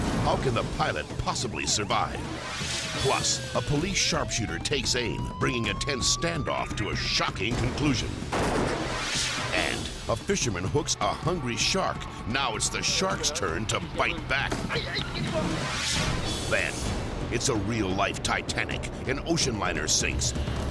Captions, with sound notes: How can the pilot possibly survive? Plus a police sharpshooter takes aim, bringing a tense standoff to a shocking conclusion, (gunshot fires) and a fisherman hooks a hungry shark. Now it's the shark's turn to bite back. Then it's a real life Titanic. An ocean liner sinks,